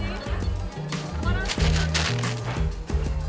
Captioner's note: chatter